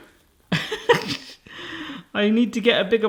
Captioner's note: laughs